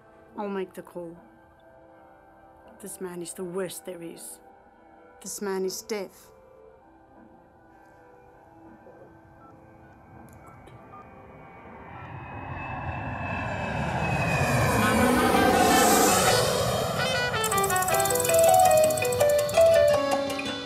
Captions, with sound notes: - I'll make the call. This man is the worst there is. This man is death. (airplane engine roaring) (lively salsa music)